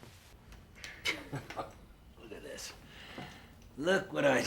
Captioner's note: chuckling